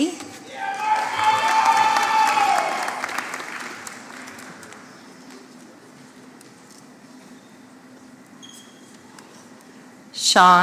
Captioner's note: applause